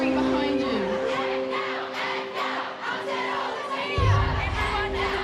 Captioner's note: crowd chanting